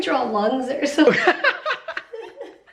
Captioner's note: chuckling